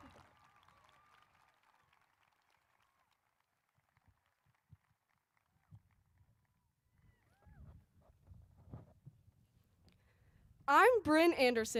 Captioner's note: applause